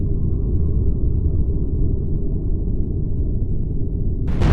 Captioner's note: rumbling explosion